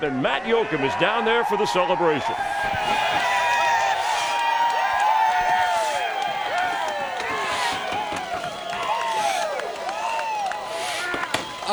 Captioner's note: cheers and applause